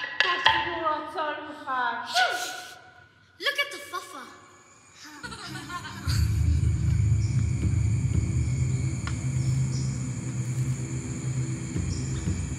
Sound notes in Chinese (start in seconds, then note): 0.1 非英文对话; 5.0 笑声